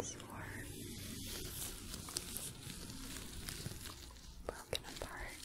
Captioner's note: glove sounds, shuffling